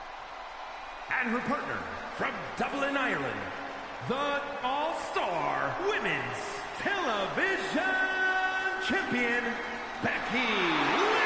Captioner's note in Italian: Applauso